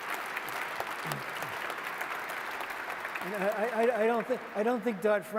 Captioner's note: applause